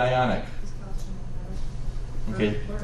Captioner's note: students answer quietly